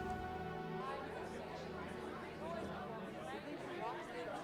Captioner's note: group chattering